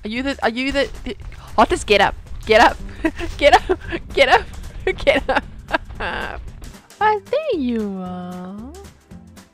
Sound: panics

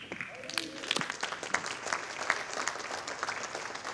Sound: audience applauding

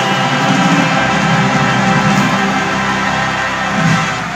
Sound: crowd cheering

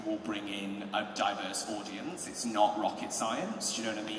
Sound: none

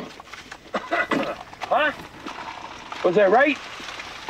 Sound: coughs

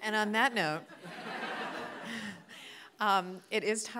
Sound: audience laughing

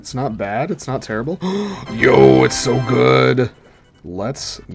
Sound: gasp

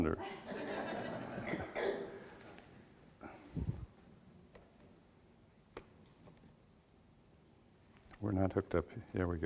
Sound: audience laughter

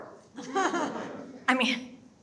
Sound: audience laughing

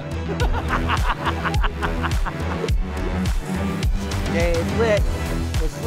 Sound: laughs

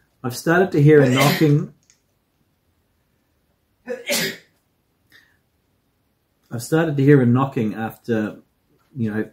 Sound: seismic sneezing

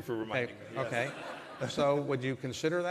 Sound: laughter

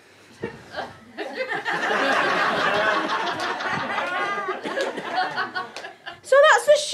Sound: audience laughter

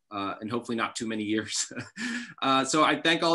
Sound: chuckles

